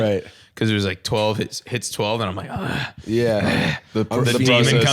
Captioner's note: growling